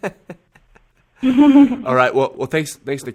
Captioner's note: laughter